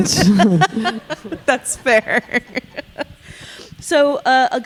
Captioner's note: laughing